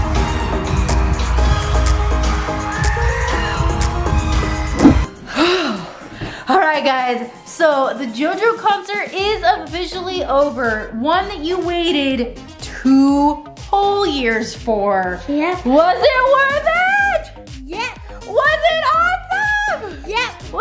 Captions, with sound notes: - (sighs) All right guys, so the JoJo concert is officially over. One that you waited two whole years for. - Was it worth it? - Yes. - Was it awesome? - Yes.